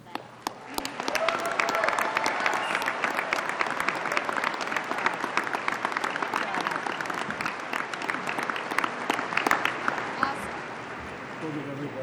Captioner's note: applause